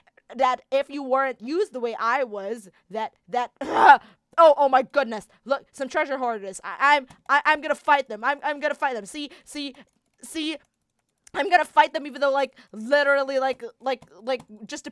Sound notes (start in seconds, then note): 3.7 Childe screams